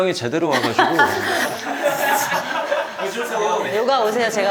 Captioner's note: cracking up